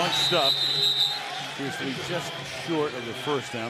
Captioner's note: whistles